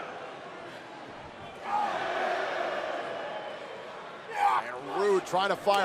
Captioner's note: crowd chatter